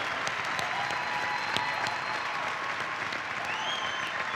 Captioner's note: cheering and applause